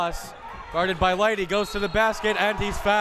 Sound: whistle tweeting

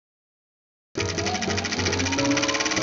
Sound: film reel rolling

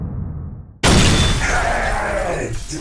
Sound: boom

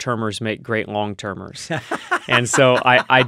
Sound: laughing

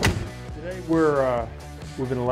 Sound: car door slams

